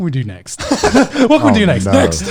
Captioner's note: laughing